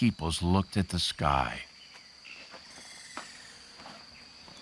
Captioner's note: birds chirping